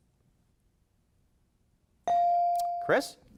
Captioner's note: bell dinging